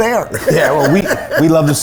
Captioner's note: laughing